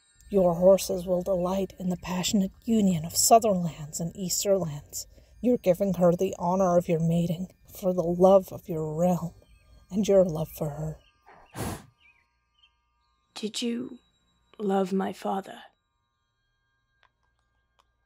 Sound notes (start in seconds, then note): 11.4 deep breath